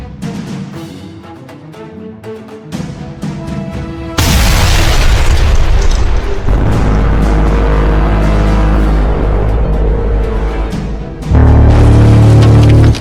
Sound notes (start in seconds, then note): 4.2 explosion booms; 6.4 machine blaring